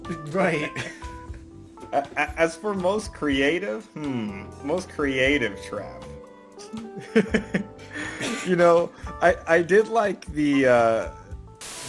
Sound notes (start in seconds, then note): 6.9 laughs